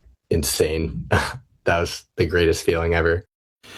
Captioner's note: chuckles